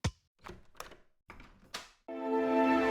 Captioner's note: unlocking door sound